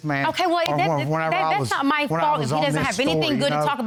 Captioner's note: stutters